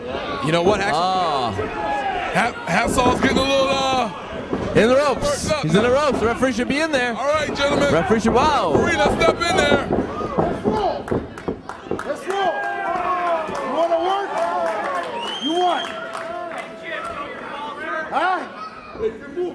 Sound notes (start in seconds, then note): 14.6 crowd cheering; 19.3 crowd